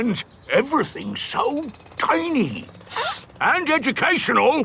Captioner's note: sniffs